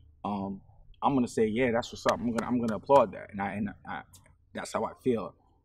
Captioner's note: clapping